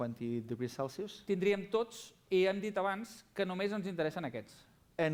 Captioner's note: non-english speech